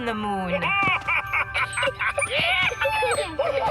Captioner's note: excited laughter